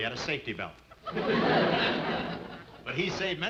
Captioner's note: audience laughing